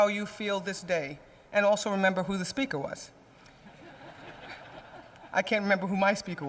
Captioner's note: laughter